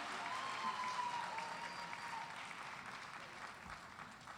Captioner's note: cheers and applause